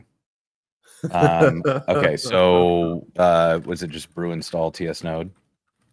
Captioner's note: laughter